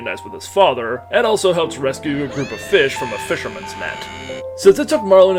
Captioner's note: Dory screaming blue murder